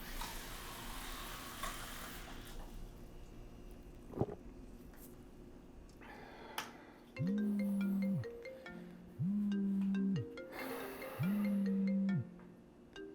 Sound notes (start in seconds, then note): 0.0 water gushing; 7.2 phone ringing; 10.5 Terry sighs